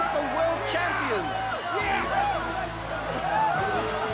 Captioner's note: cheering